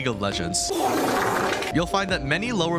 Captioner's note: fart Noise